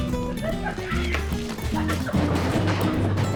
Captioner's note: laughs